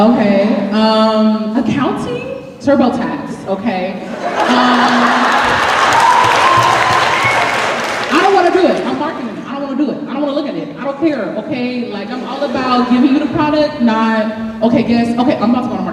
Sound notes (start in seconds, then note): 4.2 applause